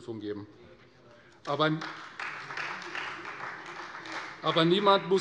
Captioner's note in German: Beifall Freie Demokraten